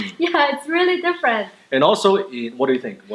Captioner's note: laughs